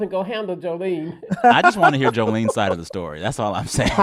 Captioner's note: laughter